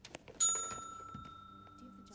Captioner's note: bell dings